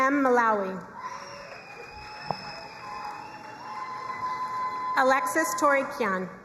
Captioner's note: crowd cheering and applauding